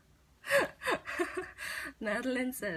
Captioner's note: laughs